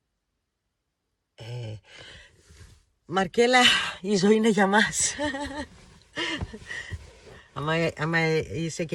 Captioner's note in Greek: γέλια